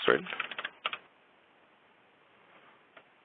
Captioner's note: typing